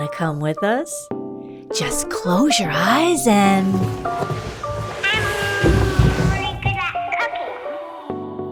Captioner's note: sliding sound, traveling down the magic book chute